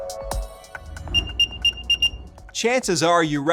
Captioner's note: AirTag beeping